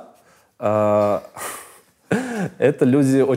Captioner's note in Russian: смеются